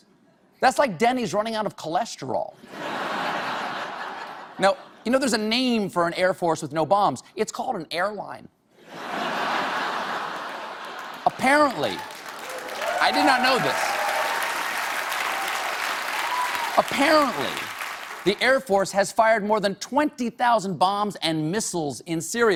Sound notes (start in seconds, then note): 8.8 laughter; 14.2 cheers and applause